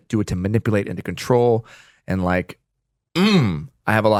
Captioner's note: groans